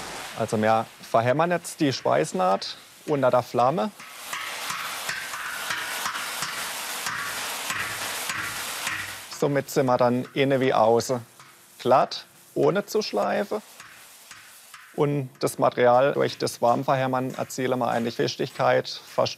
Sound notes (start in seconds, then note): 5.3 hammering, quiet hissing